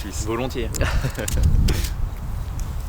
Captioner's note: laughs